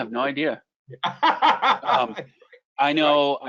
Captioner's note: laughs